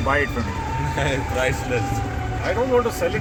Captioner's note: laughs